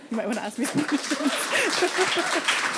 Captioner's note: laughing; audience applauding